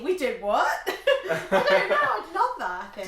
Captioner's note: both laughing